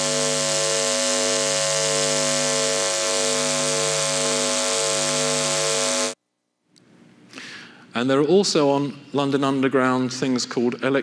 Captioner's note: buzzing